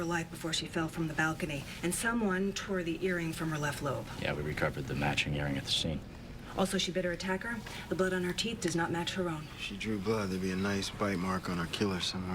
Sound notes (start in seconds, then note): none